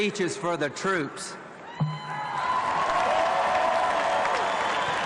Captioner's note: cheering